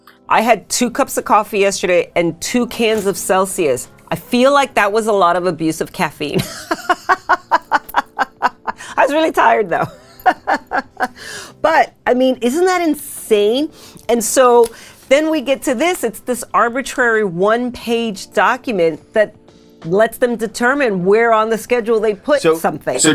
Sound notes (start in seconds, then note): 6.4 laughs